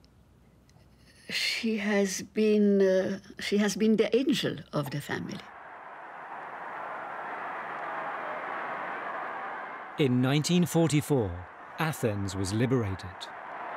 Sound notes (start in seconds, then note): 5.2 crowd cheering